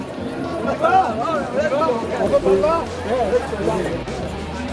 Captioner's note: indistinct conversation